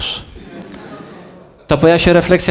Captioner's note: laugh